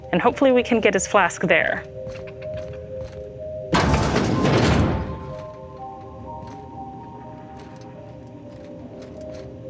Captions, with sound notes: and hopefully we can get his flask there. (door clanks)